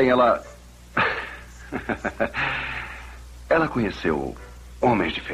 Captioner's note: chuckles